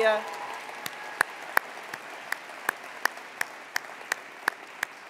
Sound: attendees applauding

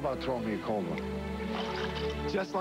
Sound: ice & water splash in ice chest

